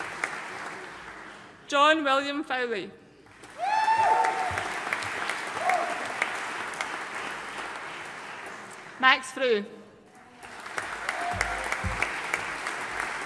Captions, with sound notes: John William Fowlie. (AUDIENCE CHEERING AND APPLAUDING) Max Fruh. (AUDIENCE APPLAUDING)